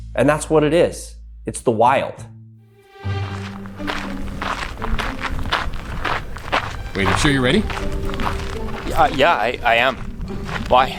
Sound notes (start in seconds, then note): 2.3 suspenseful music; 2.9 footsteps crunching